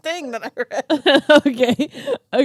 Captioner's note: laughs